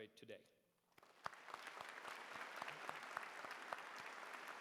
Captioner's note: applause